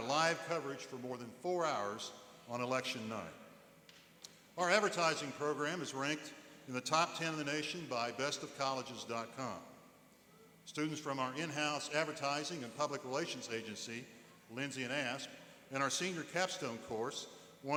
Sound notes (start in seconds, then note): none